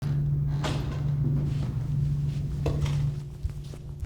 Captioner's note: footsteps patter